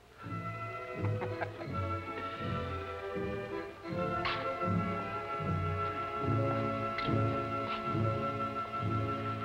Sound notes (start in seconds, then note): 0.0 orchestral music; 1.0 Ritchie laughing